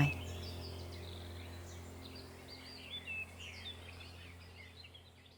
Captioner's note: birds chirping